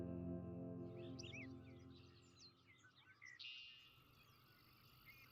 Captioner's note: birds singing